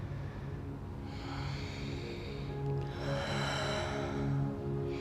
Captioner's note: breathing deeply